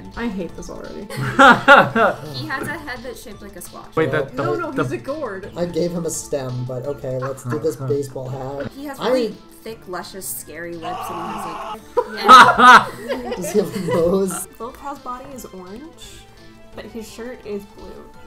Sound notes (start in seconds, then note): 1.1 laugh; 10.8 screaming; 11.9 laughing